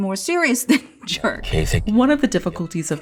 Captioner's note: Deok-su speaks in Korean